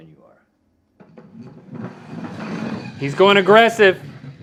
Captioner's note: puck sliding